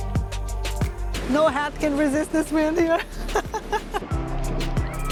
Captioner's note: laughs